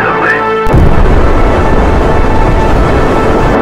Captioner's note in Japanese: 建物が崩落する音